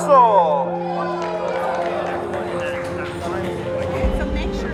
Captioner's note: group cheering